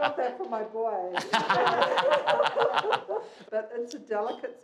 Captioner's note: laughing